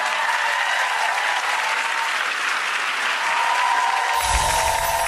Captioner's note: audience applauding